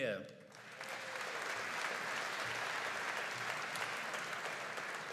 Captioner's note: audience applauding